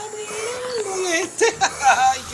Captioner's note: breathes pressurized air